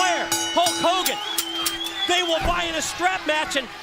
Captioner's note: bell ringing